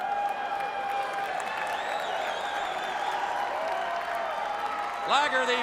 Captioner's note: crowd cheering